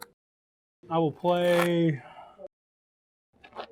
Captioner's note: shuffling asmr